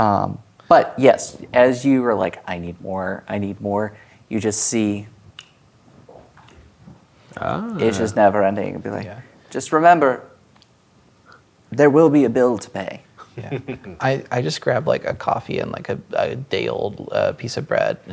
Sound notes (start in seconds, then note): 5.4 snaps fingers; 13.2 chuckling